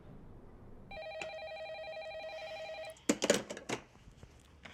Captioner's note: telephone ringing